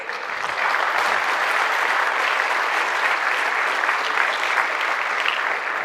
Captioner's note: applause